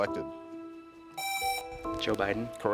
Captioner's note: buzzer rings